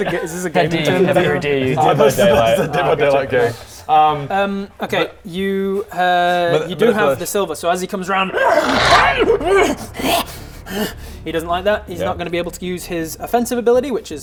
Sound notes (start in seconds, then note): 8.2 hrrgh!; 8.2 agh! urgh! grrr